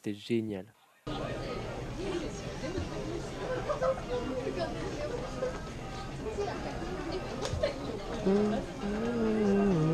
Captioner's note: 僕のヒーローアカデミア Opening 2 + Excessive Fan = Shy Humming